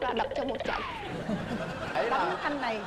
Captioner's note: laughing